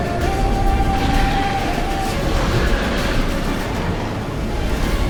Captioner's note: hounds hissing